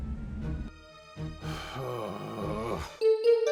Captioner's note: a long sigh